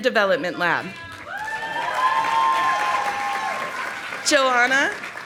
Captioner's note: audience applauding